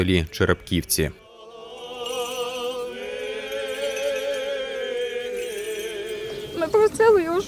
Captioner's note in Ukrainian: Лунає молитва